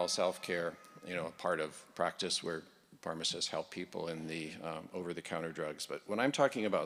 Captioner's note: laughing